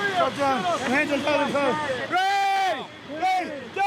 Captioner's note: instructors yelling